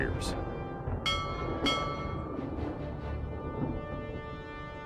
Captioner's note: ship's bell ringing